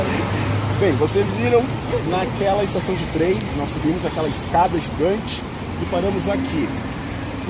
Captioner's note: laugh; laughter from the guide